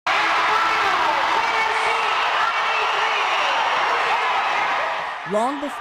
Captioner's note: crowd cheering